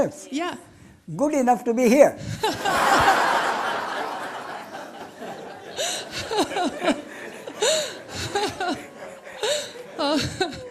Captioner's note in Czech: smích